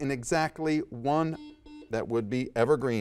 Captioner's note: buzzer dings